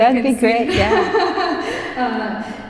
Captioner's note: laughs